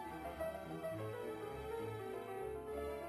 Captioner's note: none